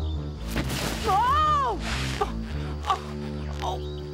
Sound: Cleo cries out

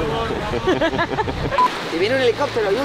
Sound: laughs

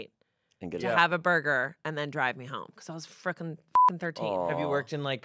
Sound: beep

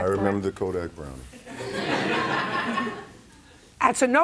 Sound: laughter

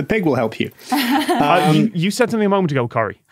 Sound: chuckles

